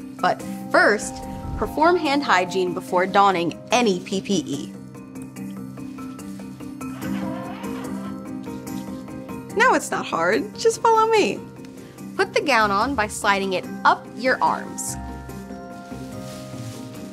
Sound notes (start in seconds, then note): 5.2 calm music; 6.9 dispenser screeches